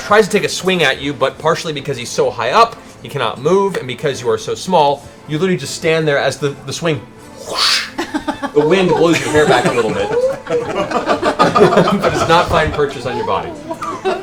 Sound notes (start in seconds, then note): 11.2 laughter